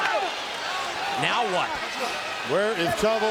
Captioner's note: crowd cheering